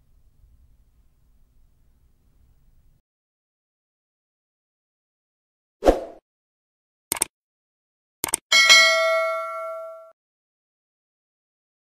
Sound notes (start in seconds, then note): 5.8 logo whooshes; 7.1 mouse clicks; 8.5 bell rings